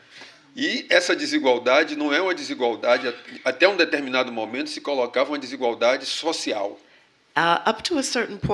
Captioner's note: speaking portuguese